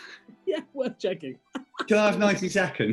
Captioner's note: laughing